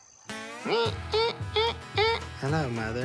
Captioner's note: imitates theme